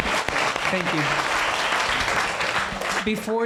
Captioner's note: applauding